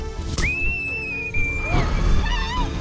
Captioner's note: loud screaming